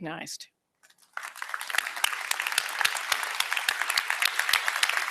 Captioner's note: applause